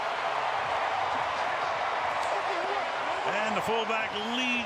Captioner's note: cheering